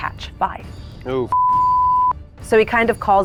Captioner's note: beep